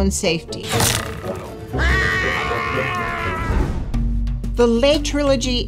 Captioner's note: arrow clangs; Angela screaming